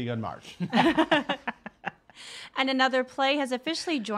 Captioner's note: laughing